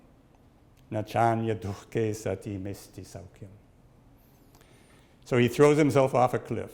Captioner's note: speaks in Sanskrit